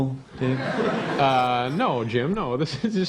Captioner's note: laughter